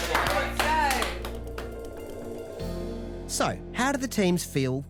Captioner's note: applauding